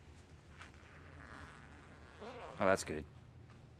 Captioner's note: bag unzipping